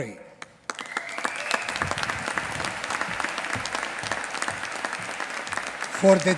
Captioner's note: applause